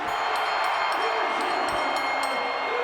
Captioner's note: bell ringing